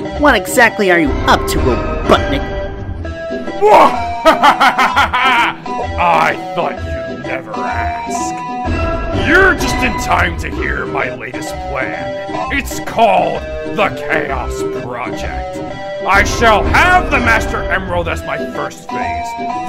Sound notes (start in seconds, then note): 4.0 sinister laugh